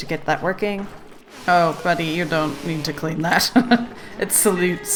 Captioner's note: laughs